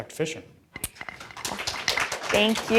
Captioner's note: audience applauds